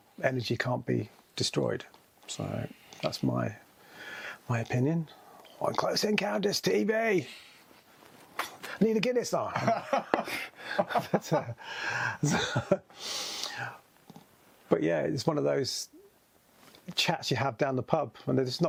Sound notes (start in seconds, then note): 9.5 both laughing